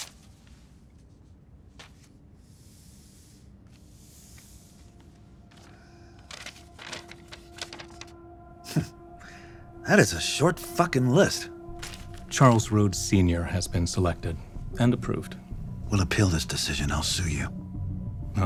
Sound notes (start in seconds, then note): 8.7 chuckles